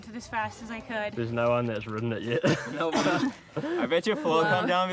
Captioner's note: laughs